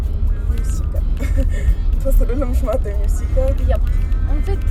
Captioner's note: giggles